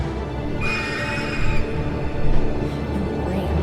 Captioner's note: dragon screeching